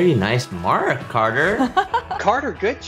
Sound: laughs

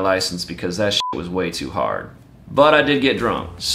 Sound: beeps

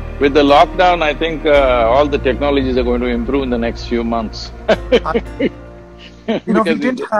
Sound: laughs

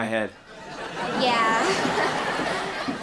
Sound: chuckles

